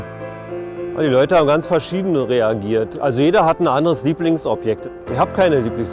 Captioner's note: speaks in a foreign language